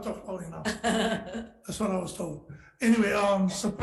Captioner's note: laughing